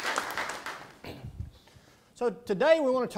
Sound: applause

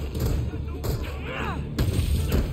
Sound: Spider-Man grunting; Fisk Thud

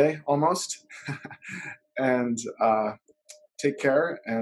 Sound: chuckles

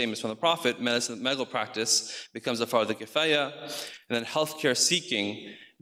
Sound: speaks in foreign language

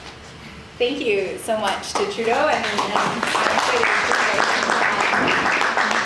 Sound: audience applauds

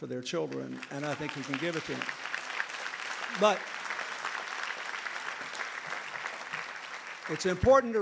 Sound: applause

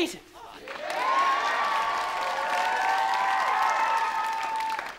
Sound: crowd cheers

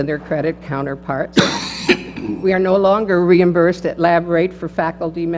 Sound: cough

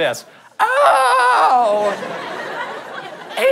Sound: in high-pitched creaky voice; audience laughter

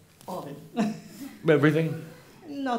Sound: she chuckles

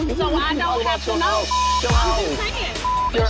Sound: beep

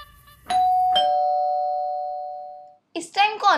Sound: door Bell Ringing

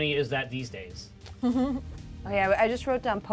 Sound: speaker chuckles

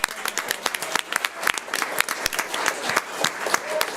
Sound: audience applauds

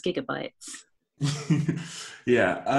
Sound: laughter

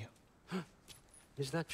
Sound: gasp

